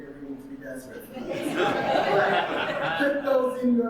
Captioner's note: audience laughing